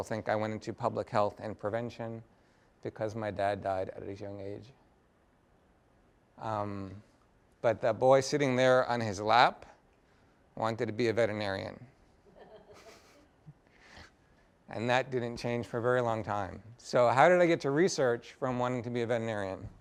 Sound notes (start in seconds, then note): 12.2 laughter